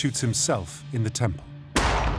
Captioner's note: pistol shot